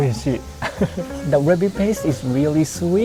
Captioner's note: chuckles